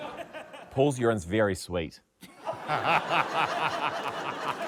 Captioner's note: laughter